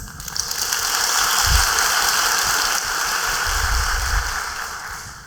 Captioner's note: applause